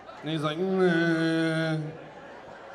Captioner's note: imitating zombie sounds; audience laughing